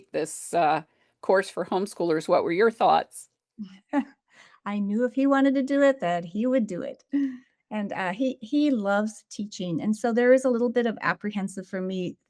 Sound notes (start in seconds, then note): 3.4 chuckles